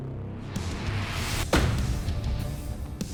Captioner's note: thunking